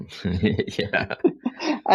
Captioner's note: laughing